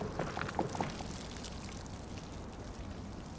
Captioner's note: gas dripping